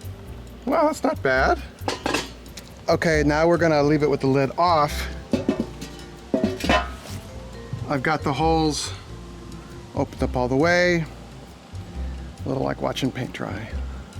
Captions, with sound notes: Wow that's not bad. Okay, now we're gonna leave it with the lid off. (lid clanks) I've got the holes opened up all the way. A little like watching paint dry.